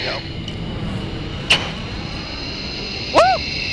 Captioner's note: jet plane engine roars